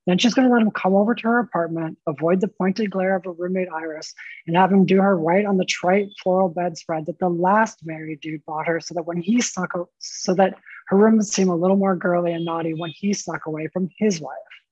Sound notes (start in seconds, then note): none